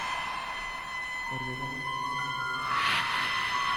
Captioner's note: none